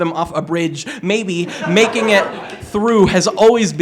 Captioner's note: laughter